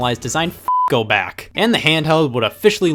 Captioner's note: beep